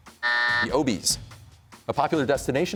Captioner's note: buzzer sounds